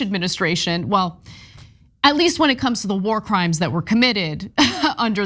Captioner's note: laugh